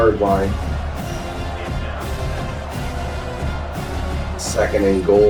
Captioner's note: crowd Noises